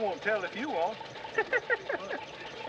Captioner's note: chuckles